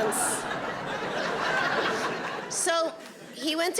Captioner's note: audience laughing